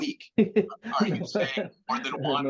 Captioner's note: chuckles